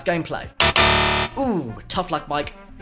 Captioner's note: wrong sound